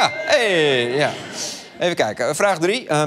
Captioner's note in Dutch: ping